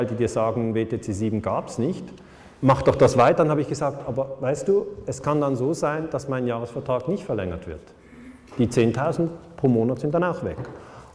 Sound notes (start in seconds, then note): none